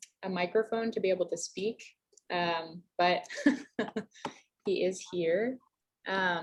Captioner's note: laughs